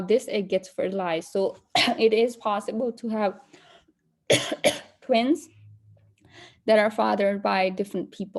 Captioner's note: coughs